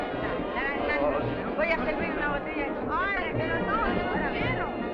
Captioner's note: dancers speaking Spanish